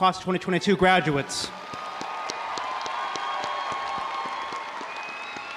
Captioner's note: audience applauding